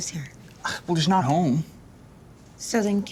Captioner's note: scoffs